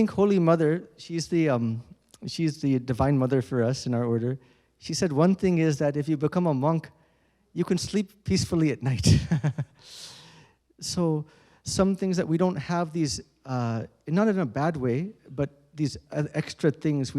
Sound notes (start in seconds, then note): 9.1 chuckles